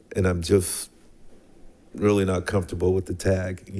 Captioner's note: none